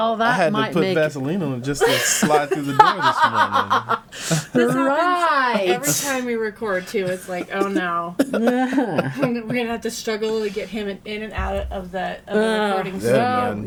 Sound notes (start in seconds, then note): 1.8 laughing